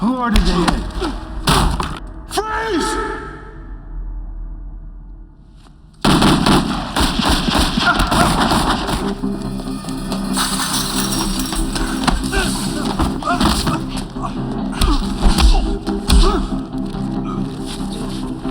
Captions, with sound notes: Who ordered the hit? Freeze! ( Groans )